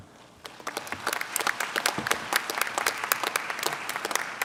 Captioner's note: clapping